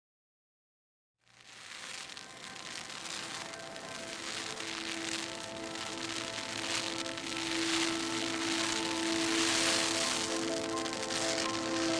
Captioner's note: fire crackling